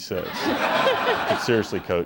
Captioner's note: laughter